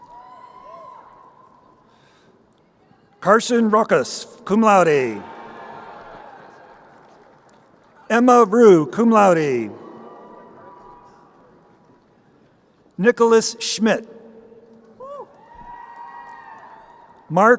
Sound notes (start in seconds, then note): 0.3 crowd cheering; 5.6 crowd cheering; 14.9 crowd cheering